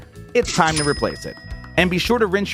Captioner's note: cash register ringing